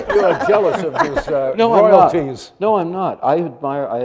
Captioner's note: they laugh